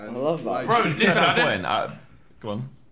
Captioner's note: Sidemen chatter